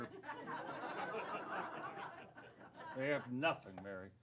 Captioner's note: laughter